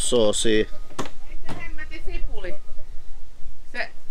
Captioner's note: yell in the background